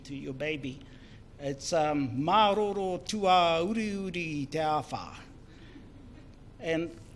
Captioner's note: foreign Language